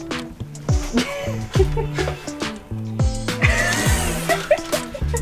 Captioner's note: laughs